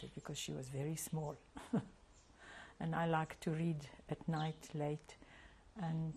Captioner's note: laughs